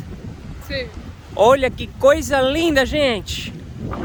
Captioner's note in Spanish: En portugués